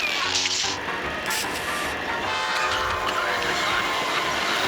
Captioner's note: train whistle blaring